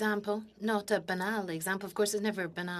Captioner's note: speaking French